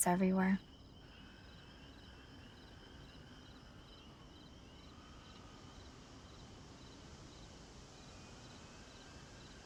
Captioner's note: crickets chirping